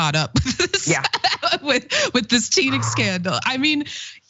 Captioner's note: laugh; laugh